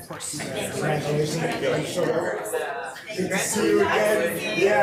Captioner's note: members chattering